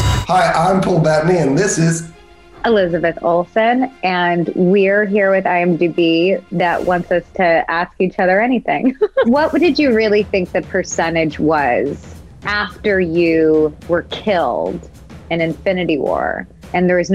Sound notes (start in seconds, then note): 8.7 laughs